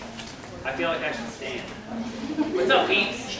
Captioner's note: laughter